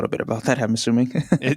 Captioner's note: laughs